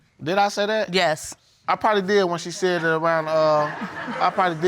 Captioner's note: audience laughing